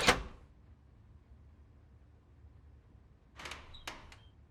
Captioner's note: door opening